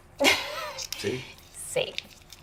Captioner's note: laughs